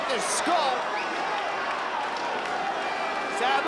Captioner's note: spectators cheering and applauding